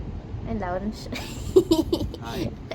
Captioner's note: laughing